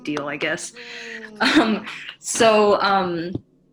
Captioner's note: giggles